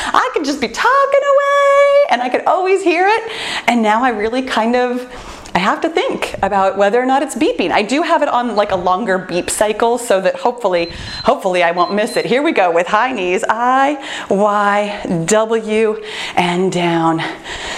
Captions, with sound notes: I can just be talking away and I could always hear it. Now, I really have to think about whether or not it's beeping. I do have it on a longer beep cycle, so that, hopefully, I won't miss it. [timer beeps] Here we go with high knees. I, Y, W, and down.